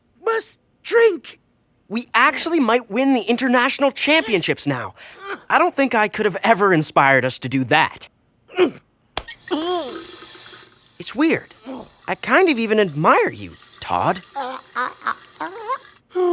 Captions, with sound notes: WE ACTUALLY MIGHT WIN THE INTERNATIONAL CHAMPIONSHIPS NOW! I DON'T THINK I COULD'VE EVER INSPIRED US TO DO THAT. (GRUNTS OF EFFORT) IT'S WEIRD. I KIND OF EVEN ADMIRE YOU... "TODD". (STRUGGLING GRUNTS) (SIGHS)